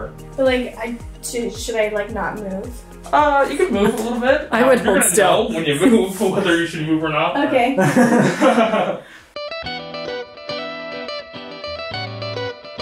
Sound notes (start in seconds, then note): 7.7 both laughing; 9.4 bright upbeat music